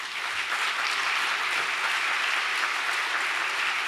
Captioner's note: audience applause